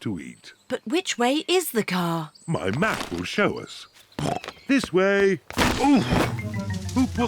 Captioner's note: snorts